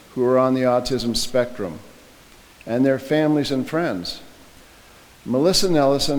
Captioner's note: none